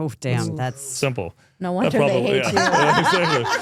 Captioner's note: both laughing